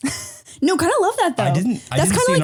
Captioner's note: laughing